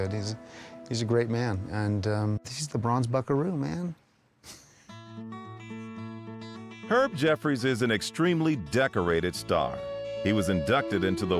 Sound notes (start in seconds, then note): 4.4 chuckling; 4.6 relaxing guitar music